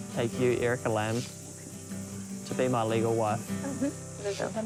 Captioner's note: whispers